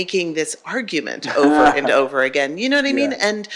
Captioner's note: laughs